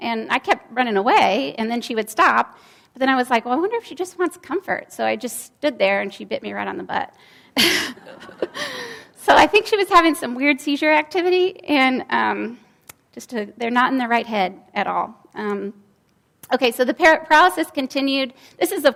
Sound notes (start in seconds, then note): 7.7 laughs, and audience laughs